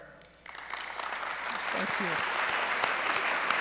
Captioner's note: audience applauds